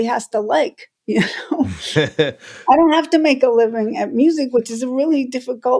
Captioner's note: laughter